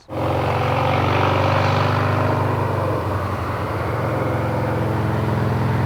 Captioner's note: engine roars